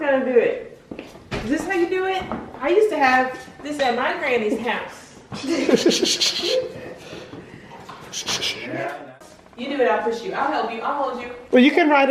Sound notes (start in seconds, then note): 5.4 laughing